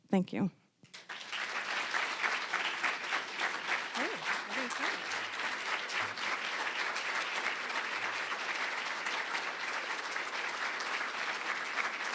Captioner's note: applause